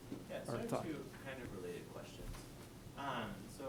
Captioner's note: voiceover